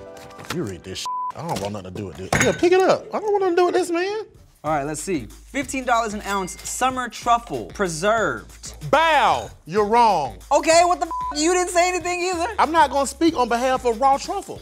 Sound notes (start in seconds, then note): 1.0 beep; 10.9 beep